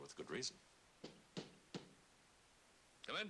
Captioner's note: knocking